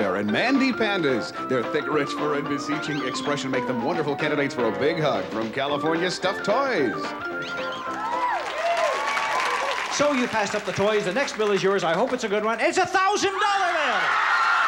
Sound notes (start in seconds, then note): 7.8 cheering and applause